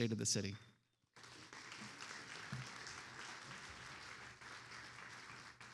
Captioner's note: attendees applauding